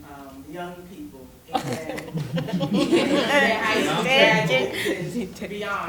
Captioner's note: laughter